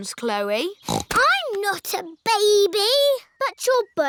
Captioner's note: snorts